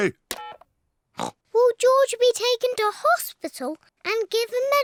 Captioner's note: oinks